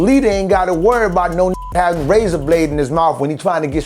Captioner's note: beep